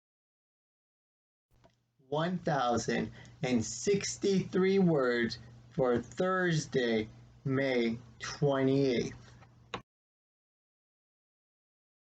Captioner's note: click